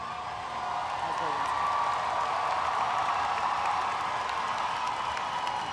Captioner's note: audience applauds and cheers